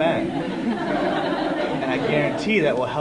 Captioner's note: laughter